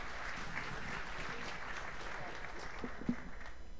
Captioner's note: applause